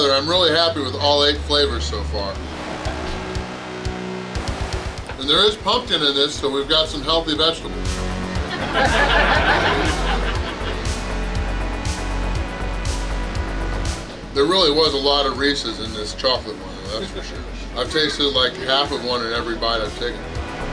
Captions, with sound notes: I'm really happy with all eight flavors so far. And there is pumpkin in this, so we've got some healthy vegetables!! [Hahaha] There really was a lot of Reese's in this chocolate one, that's for sure!! I've tasted like half of one in every bite I've taken.